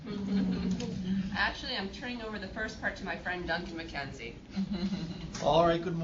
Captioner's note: laugh; laugh